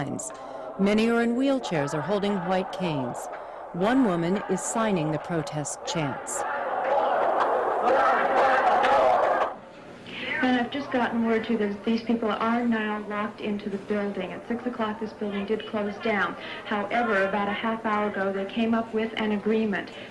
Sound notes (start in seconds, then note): 4.9 group shouting